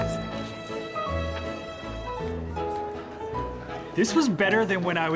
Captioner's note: post-show chatter